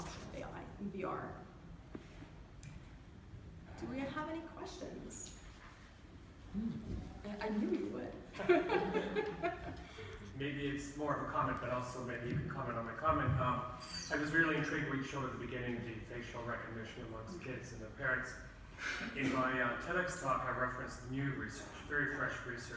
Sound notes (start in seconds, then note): 8.3 laughter